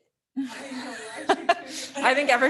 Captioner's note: laughs